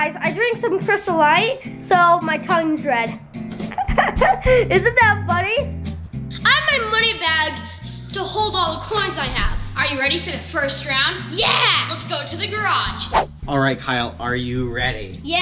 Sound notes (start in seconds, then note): 3.6 chuckles